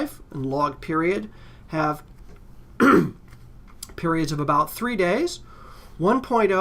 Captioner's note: cough